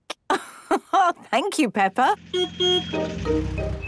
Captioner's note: laugh; honking